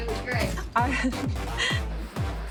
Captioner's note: chuckles